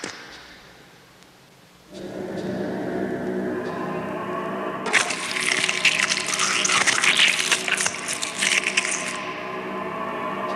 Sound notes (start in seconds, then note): 4.8 squishes